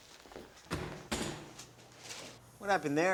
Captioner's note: door slams open